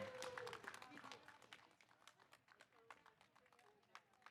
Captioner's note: audience applauding